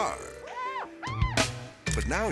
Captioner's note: model screaming